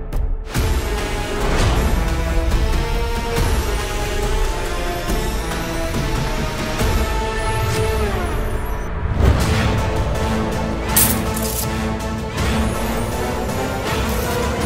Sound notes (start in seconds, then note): 1.1 eerie music playing; 10.9 coins clinking